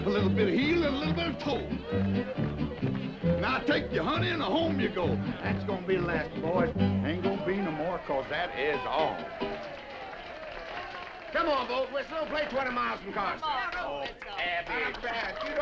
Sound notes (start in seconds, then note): 2.0 upbeat music; 8.9 all applauding